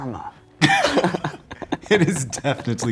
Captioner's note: men laughing